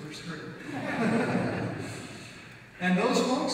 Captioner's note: audience laughs